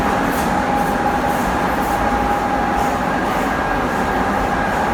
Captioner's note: train running